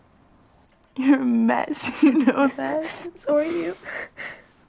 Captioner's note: chuckles